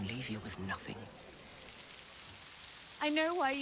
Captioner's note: rain spattering